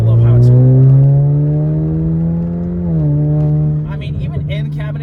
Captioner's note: engine revving